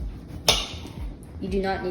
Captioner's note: knife taps